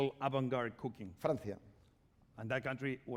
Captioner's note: speaking spanish